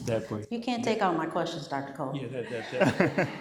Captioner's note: laughter